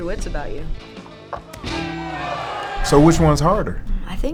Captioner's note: crowd cheering; guitar strumming